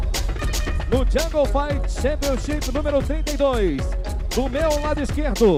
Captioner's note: announcer speaking Portuguese